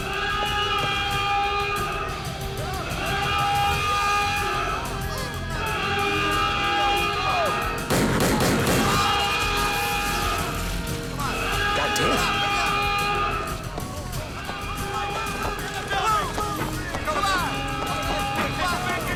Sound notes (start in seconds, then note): 0.1 alarm wails; 7.9 gun fires; 13.9 alarm wails; 13.9 overlapping chattering